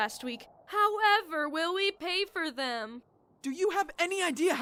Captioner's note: mockingly